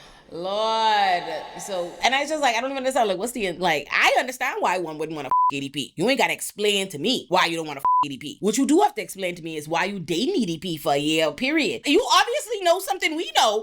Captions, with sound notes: Lord. So, and I just like, I don't even understand. Like, what's the, like, I understand why one wouldn't wanna (beep) EDP. You ain't gotta explain to me why you don't wanna (beep) EDP. What you do have to explain to me is why you dating EDP for a year, period. You obviously know something we know.